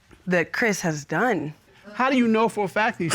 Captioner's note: chuckles